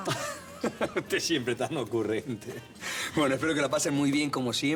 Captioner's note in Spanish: Risas